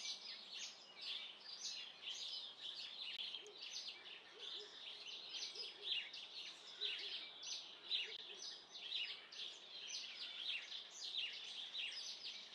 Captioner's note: birdsong